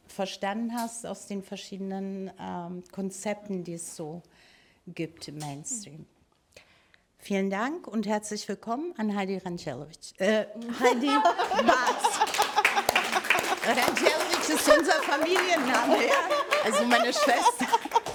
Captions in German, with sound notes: verstanden hast aus den verschiedenen Konzepten, die es so gibt im Mainstream. Vielen Dank und herzlich willkommen an Hajdi Randjelović, äh... (Gelächter) (Applaus)